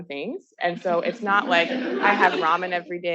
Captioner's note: attendees laughing